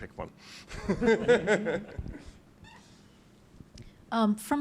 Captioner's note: chuckles